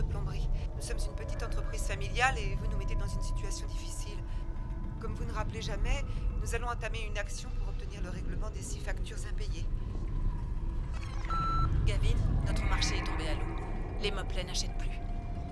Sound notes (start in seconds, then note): 10.9 beeping; 12.1 voiceover